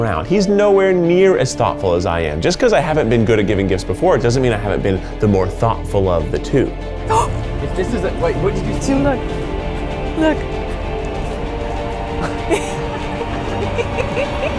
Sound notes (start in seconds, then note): 7.1 gasps; 11.0 intense suspense music